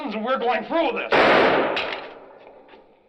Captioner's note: gunshot